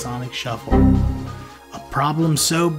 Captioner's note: heavy beep